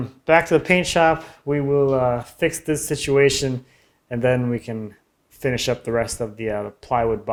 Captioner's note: none